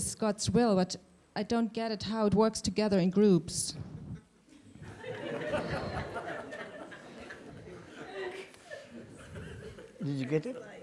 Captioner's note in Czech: smích